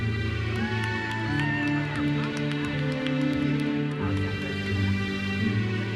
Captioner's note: audience cheers and applauds